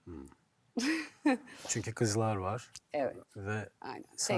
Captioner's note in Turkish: kahkaha